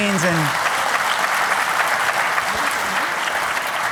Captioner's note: applause